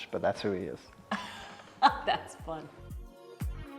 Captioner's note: laughs